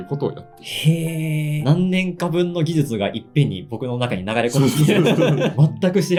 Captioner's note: laughs